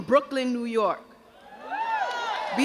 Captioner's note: crowd cheers